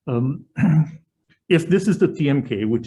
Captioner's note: clearing throat